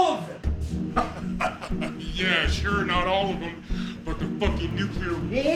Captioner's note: laughing